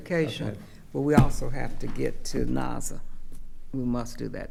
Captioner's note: slaps table